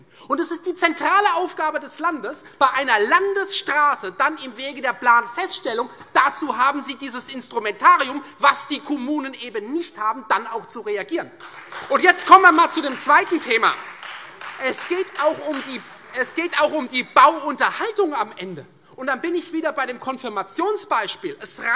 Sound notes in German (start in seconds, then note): 11.3 Beifall Freie Demokraten